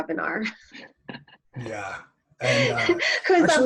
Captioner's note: laughter